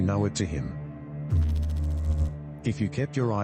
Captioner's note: electrical noise